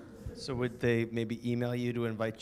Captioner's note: voiceover